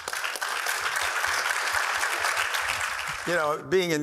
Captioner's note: applause